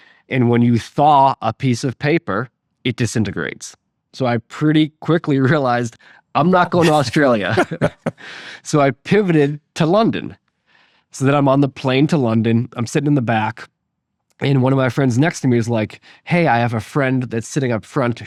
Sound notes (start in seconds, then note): 6.6 laughing